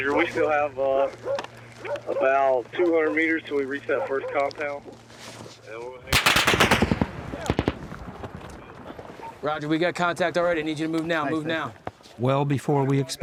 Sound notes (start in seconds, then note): 0.0 dog barking; 6.1 gunfire